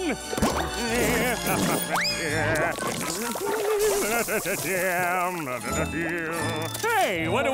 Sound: humming

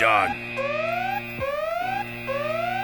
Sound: static hissing

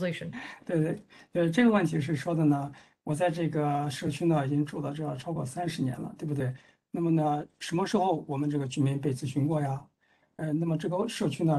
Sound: speaks in Mandarin

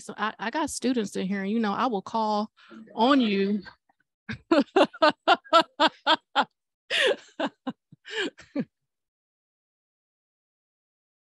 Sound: laughter

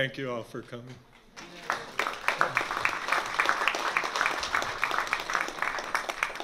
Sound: applause

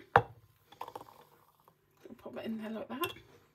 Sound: pouring sound

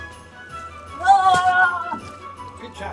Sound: assistant screaming

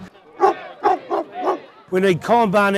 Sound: dog barking

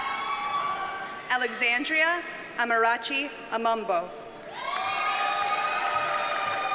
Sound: audience cheers and applauds

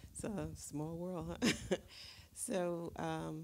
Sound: Dash chuckles

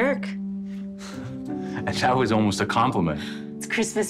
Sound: chuckles

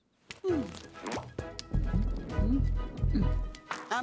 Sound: heartbeat pounding

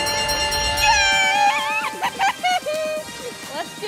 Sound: giggling

